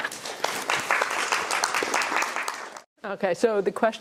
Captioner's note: applause